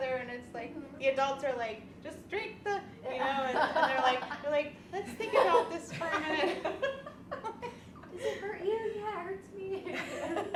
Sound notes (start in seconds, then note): 6.7 women laughing